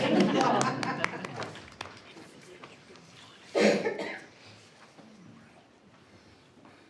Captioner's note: group laugh; audience clapping